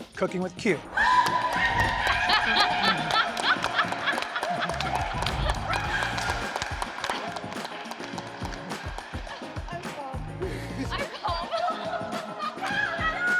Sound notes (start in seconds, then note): 0.9 screams; 1.2 applauding; 10.3 laughing